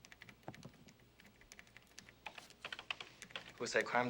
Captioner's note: keys clicking